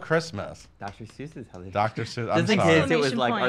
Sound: voice muffled

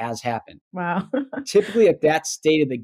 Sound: laughs

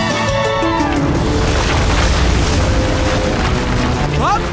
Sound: ground crumbling

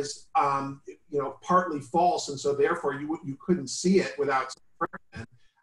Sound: glitch

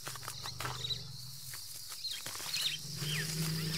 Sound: elephants grumble

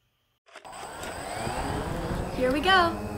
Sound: whirring drone engine

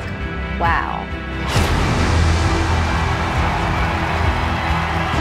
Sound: air cannon exploding; crowd cheering

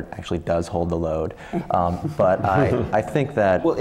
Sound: laugh

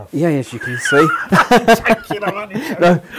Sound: laughing

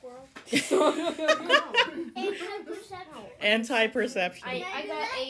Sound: laughter

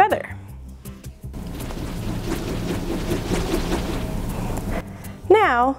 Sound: loud whooshing

